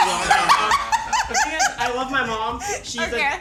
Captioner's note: all laugh